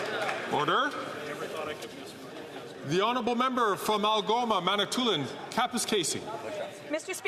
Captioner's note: some Applause